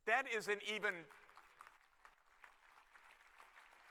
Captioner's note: applause